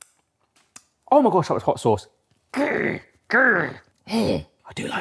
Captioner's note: groans